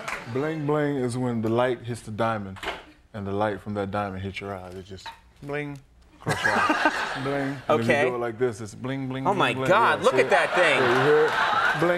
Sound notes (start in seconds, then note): 6.2 audience laughing